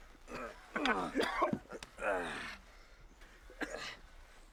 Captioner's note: man grunts